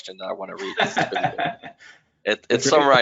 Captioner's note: laughs